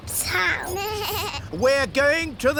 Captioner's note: suzy bleats